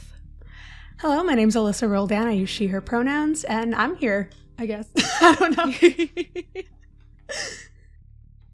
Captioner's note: laughs